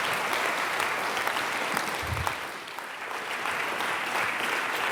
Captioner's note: applause